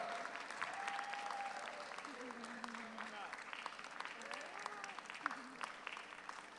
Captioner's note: audience cheers; audience applauds